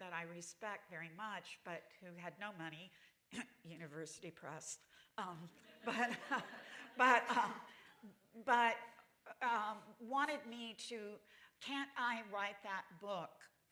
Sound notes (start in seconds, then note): 5.6 laughter